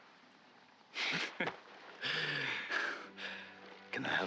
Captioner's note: laughs